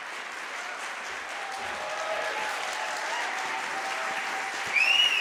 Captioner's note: audience cheering